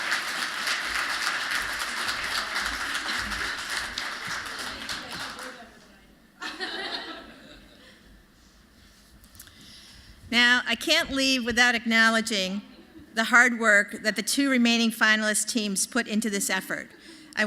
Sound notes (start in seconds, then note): 0.0 applause